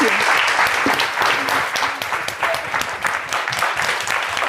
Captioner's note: applause